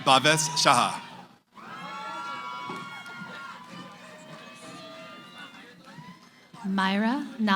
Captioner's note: cheering